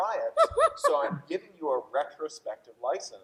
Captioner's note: laughing